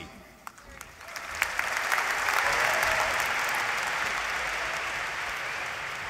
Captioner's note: applause